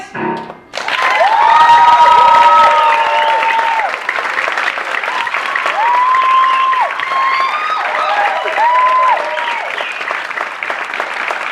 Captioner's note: applause